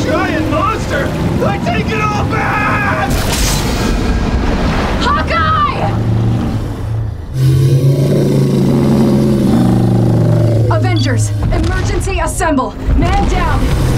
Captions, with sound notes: Giant monster, I take it all back. Hawkeye! [GROWLS] Avengers, emergency assemble! Man down.